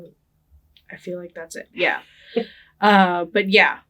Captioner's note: laughing